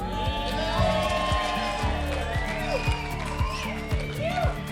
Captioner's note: cheering